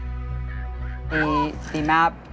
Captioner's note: laughter